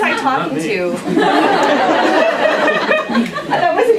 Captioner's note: laughter